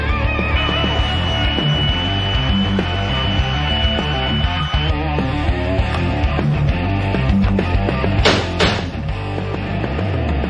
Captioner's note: grinding and tapping